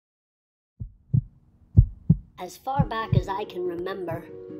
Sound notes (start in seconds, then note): 1.7 heartbeat